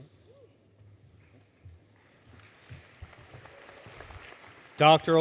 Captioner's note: applause